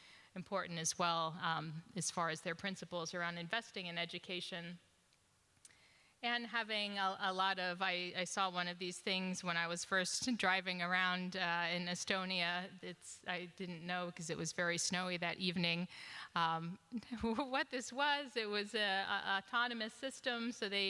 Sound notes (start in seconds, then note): none